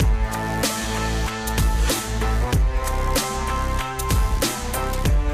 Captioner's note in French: none